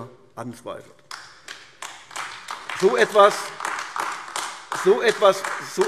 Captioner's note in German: Beifall AfD